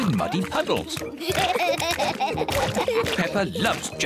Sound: both laughing

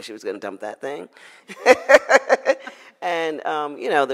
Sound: laughs

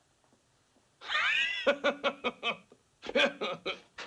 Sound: laughs

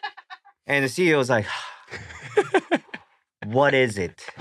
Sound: sighs

